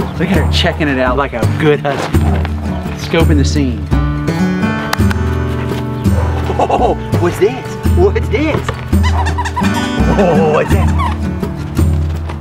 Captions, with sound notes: Look at her, checking it out like a good Husky. Scoping the scene. Oh, what's this, what's this! (toy squeaking)